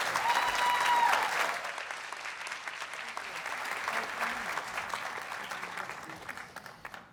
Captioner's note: audience cheers and applauds